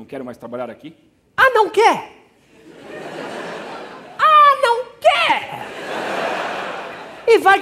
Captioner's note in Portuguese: sarcástico